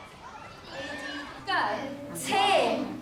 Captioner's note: children chatter